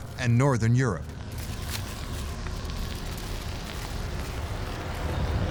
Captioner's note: wind howling and crackling ice